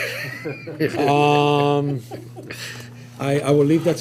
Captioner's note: laughter